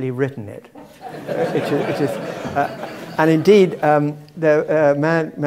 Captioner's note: laugh